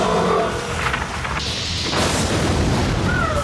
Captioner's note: groaning